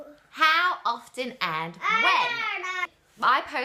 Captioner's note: babbles